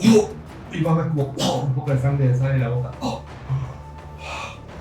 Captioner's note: coughs